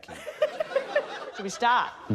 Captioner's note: laughter